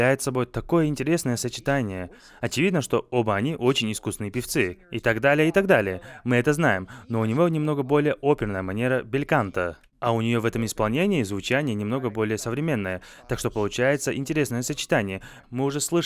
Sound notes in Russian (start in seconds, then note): none